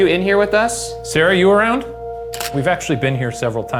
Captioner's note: camera clicks